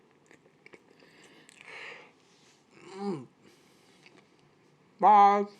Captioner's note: grunts